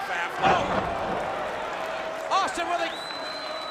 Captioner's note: crowd cheering